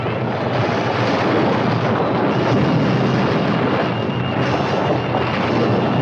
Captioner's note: suspenseful music; stones rumbling continues; water gushing continues